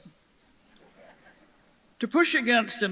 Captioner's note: audience chuckles